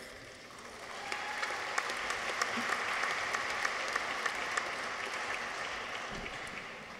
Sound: audience applauds; people cheer

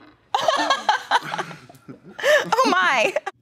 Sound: laughing

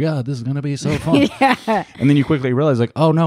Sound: laughs

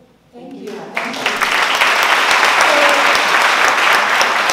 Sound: applause

